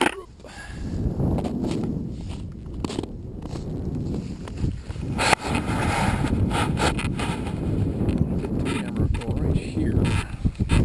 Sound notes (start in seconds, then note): 1.7 boots in snow; 2.3 crunch, Crunch, Crunch